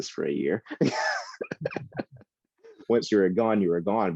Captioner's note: laughing